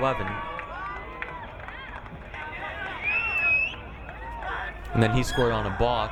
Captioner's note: crowd cheering